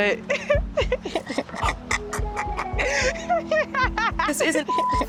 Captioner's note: laughing